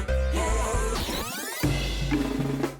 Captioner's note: record scratches